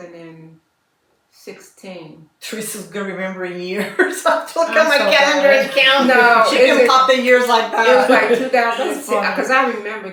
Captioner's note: laughter